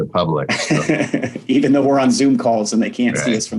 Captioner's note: laughs